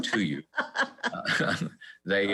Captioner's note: laughs